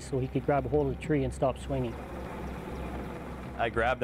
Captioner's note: helicopter blades chop air